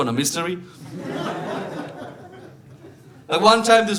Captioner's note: audience laughing